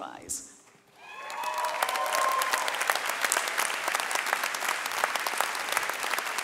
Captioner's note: audience cheering and clapping